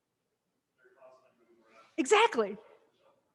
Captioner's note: student faintly speaking